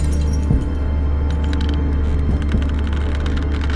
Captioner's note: footsteps, floor creaking